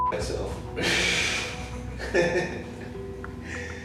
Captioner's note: laughing